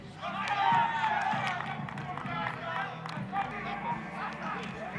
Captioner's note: applause